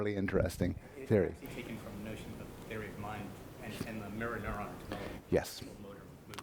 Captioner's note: voiceover